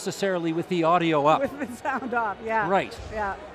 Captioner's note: laughing